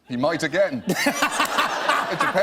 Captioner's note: laughter